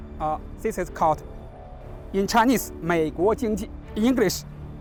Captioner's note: speaks in Chinese